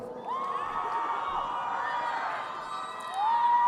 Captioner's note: crowd cheering